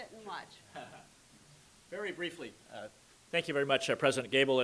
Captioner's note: chuckles